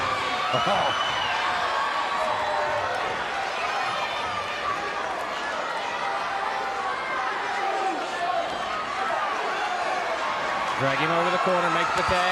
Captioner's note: crowd cheering